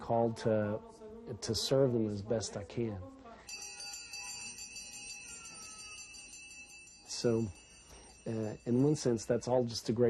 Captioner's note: bell ringing